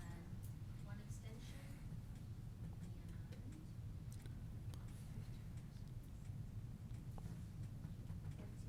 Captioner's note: off mic